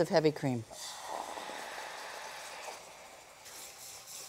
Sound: liquid hissing

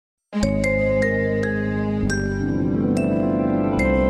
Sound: remastered wondrous chime plays

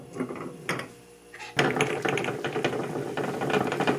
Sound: boiling

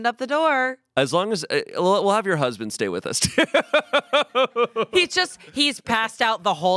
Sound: laughs

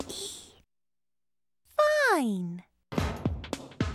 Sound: whispering; in normal voice

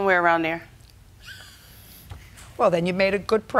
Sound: laughs

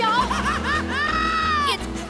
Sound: laughing

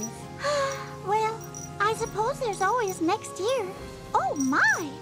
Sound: sighs

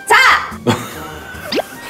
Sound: laughing

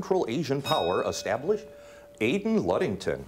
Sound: bell ringing

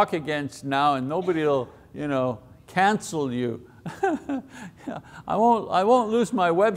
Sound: laughs

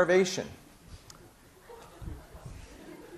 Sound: laughing

